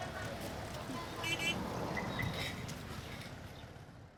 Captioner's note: horn honking